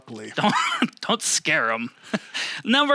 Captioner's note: laughing